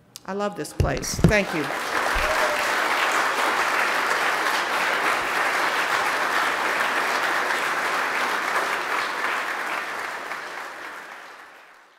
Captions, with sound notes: I love this place, thank you. (audience applauding)